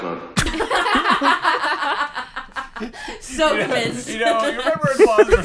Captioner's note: laughter